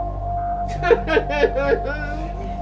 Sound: cries

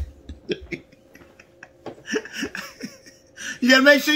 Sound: laughs

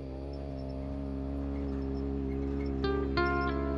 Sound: engine humming; calm music

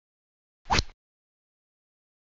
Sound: rod sound

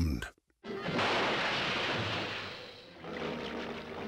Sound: splashing

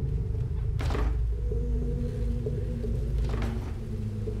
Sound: door rattles

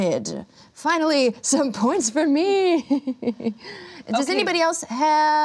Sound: laughs

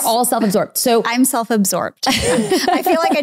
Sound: laughing

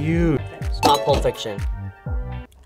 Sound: bell dings

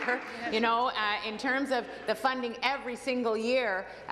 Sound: applause

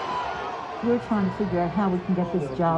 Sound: sounds of the crowd

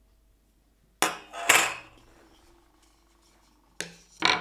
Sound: sieve thuds; spatula thuds

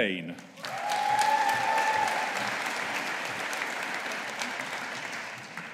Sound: audience applauding

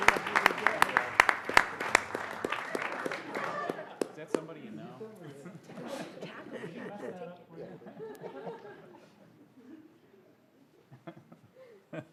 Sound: applause

